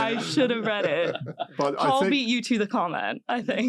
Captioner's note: laugh